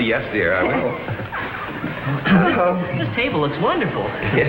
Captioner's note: audience chuckles